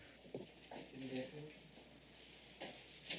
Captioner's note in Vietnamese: Tiếng nói chuyện